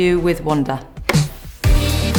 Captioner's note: bang of clapper board